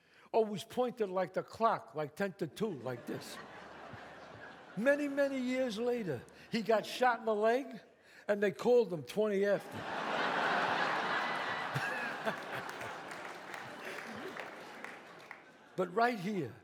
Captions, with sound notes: always pointed like the clock, like 10 to 2, like this. Many, many years later, he got shot in the leg and they called him 20 after. [audience laughs] [Chazz chuckles] But right here